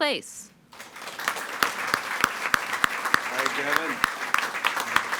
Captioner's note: all applauding